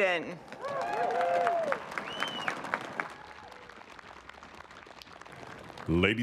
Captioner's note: applause